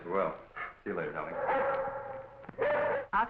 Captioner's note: dog barking